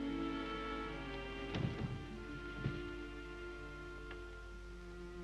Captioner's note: door rattles; sullen orchestral music